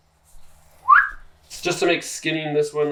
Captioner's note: whistles